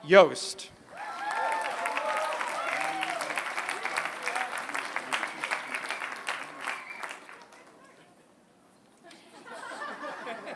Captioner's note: applause; laughter